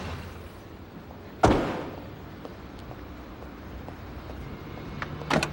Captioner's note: car door slams